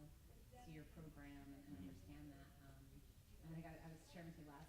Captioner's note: murmurs